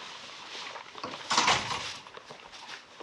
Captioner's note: door clatters shut